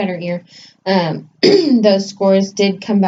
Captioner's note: clears throat